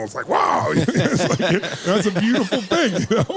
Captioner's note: laughing